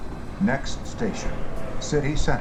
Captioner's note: chimes